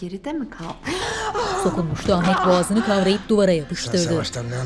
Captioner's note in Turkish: Nefes sesi